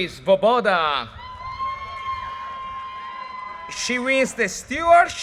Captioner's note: audience cheers and applause